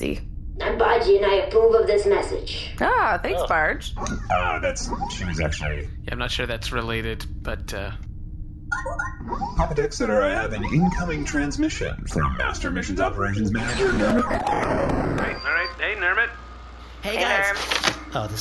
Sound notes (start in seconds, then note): 3.0 happily; 7.8 communicator chimes; 13.5 static as we enter Nermut’s perspective